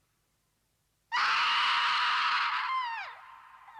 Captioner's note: girl screaming